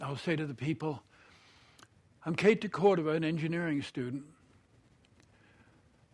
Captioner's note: none